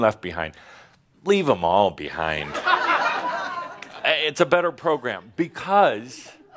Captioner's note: laughter